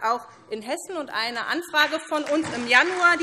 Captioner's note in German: Beifall